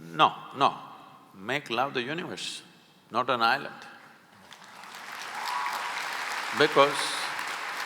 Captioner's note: applause